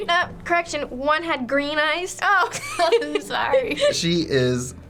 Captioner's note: laughs